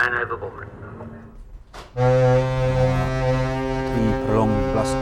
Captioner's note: horn